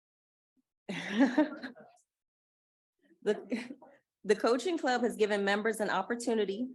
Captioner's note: chuckling